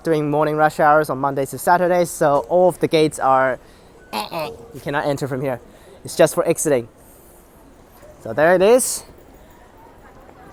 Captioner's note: denied sounds